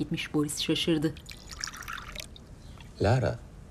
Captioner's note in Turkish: Çay doldurma sesi